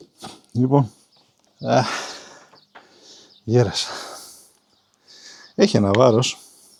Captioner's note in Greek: αναστενάζει